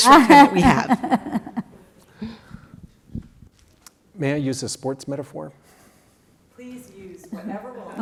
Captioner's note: laugh